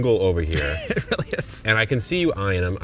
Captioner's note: laughing